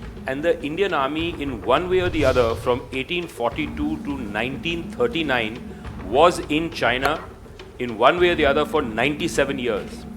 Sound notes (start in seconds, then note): none